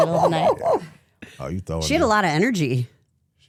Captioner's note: laughs